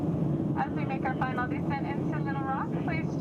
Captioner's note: voiceover